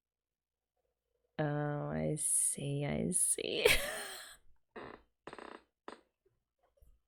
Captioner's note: laughs